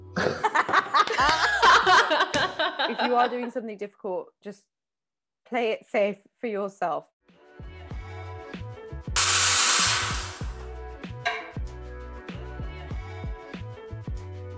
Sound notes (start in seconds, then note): 0.2 all laughing; 9.1 coffee machine hissing; 10.6 upbeat instrumental music